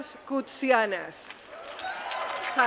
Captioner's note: applause